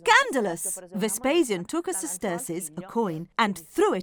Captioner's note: speaking in foreign language